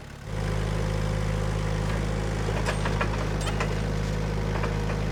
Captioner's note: engine running calmly